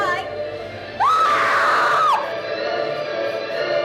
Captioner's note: screams